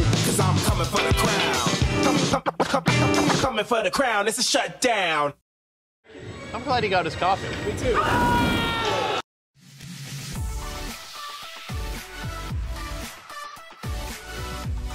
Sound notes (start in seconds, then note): 7.8 screaming; 10.4 upbeat music